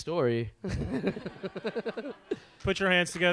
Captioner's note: laughs; audience laughs